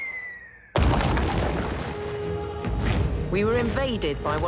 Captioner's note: whistling; crash